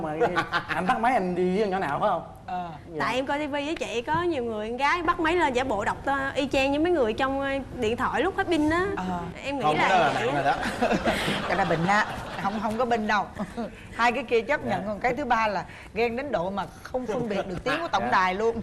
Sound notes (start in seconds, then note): 0.0 laughing; 10.9 laughing